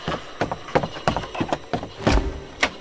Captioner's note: running footsteps - door opens